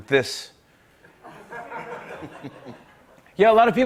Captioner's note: laughter